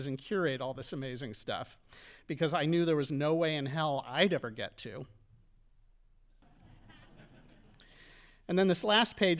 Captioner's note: audience laughing